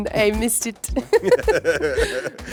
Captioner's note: laughter